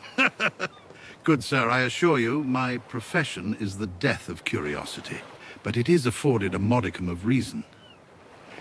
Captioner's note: laughs